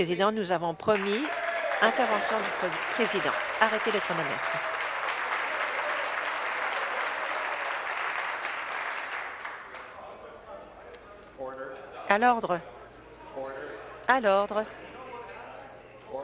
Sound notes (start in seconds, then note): 4.5 applause